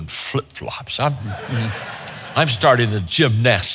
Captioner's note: audience laughs